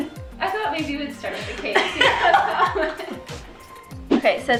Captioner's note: laughing